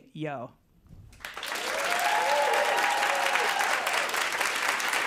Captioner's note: applause